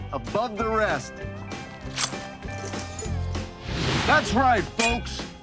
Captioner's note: sword cutting; swords smacking